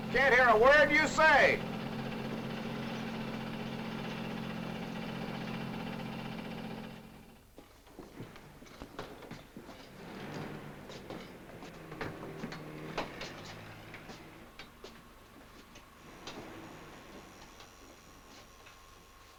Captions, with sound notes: - We can't hear a word you say! (elevator clatters) (feet shuffling)